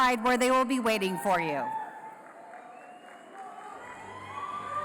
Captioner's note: applause